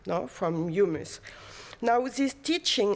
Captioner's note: non-english